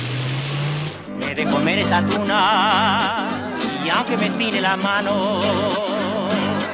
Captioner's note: upbeat music in Spanish; lively chatter